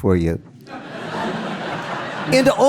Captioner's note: audience laughing